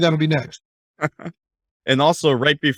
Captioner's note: laughing